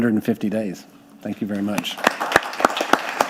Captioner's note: audience clapping; clapping